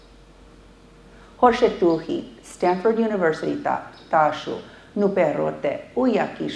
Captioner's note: speaking foreign language